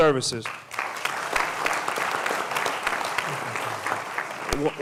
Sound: applause

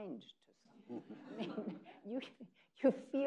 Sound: people laughing

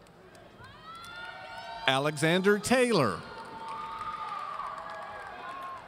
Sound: audience shouting

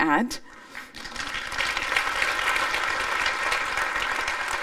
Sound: applause

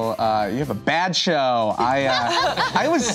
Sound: laughter

